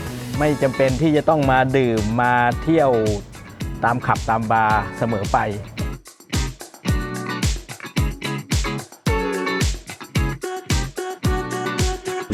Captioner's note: speaking Thai